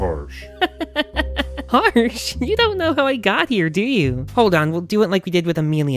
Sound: mocking laughter

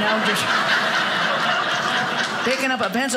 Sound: audience laughing

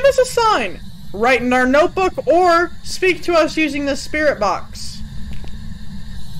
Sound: Spirit box static

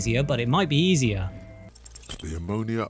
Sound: roll SFX

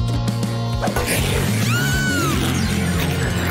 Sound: hissing; screaming

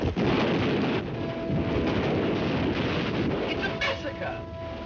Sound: artillery firing; dramatic music

